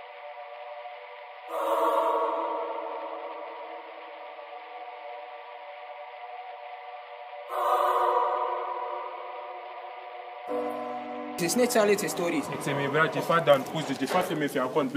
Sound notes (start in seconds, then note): none